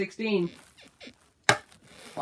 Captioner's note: bed squeaks